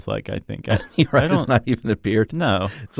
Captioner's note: laughs